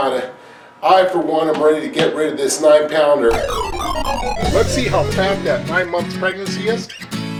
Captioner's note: video game noises, music